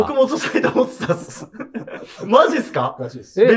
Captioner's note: laughing